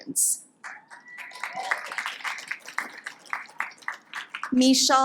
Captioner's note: audience applauds